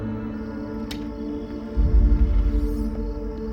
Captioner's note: crickets chirping